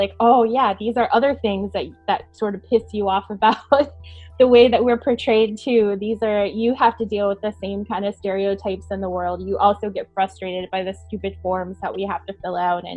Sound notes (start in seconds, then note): 3.7 chuckling